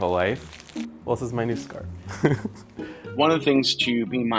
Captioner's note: laughs